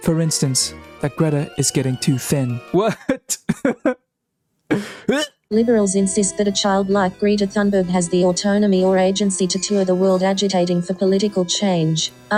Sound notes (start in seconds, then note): 4.7 coughs again